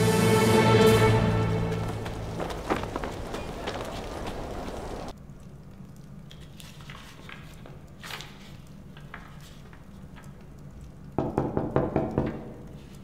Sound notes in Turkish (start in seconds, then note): 6.2 Kâğıt sesi; 11.2 Kapı vurma sesi